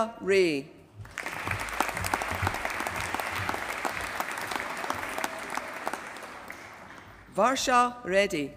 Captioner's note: applause